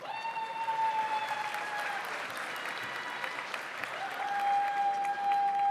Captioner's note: audience cheers; audience applauds